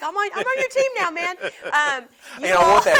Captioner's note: both laugh